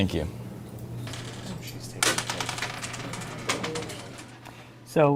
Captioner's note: dice rolling on table